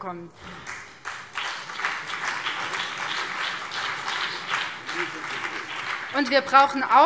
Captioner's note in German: Beifall BÜNDNIS 90/DIE GRÜNEN und vereinzelt CDU